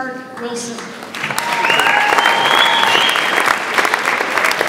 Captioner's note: audience applauds